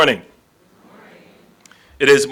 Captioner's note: audience responds